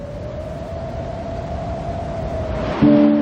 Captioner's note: wind howling